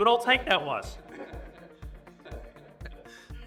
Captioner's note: audience laughs